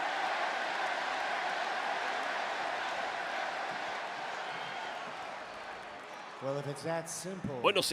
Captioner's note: applause